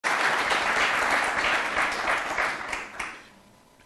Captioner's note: applause